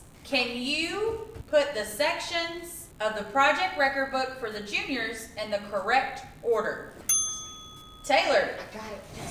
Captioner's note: ding